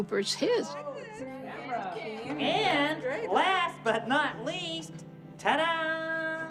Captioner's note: soundbite of tv show, "sesame street"